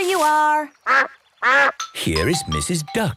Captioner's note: quacks